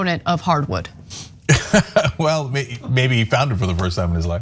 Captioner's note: laugh